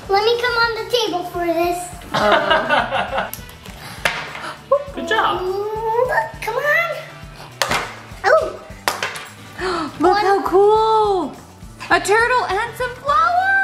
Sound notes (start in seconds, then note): 2.0 laughing